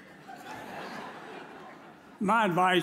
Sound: audience laughs

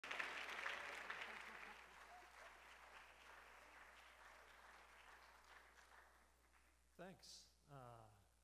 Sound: applause

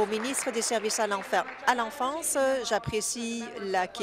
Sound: applause

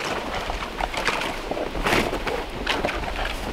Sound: tarp crackling

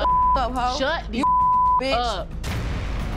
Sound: beep

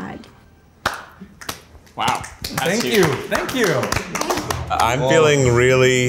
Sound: claps

